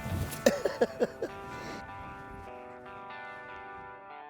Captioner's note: laughs; rock music